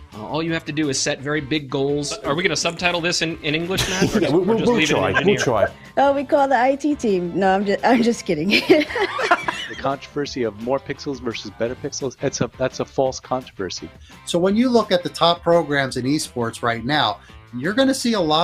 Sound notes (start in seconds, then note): 3.7 chuckles; 8.6 both chuckles